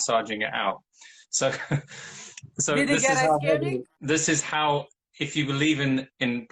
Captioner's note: laughing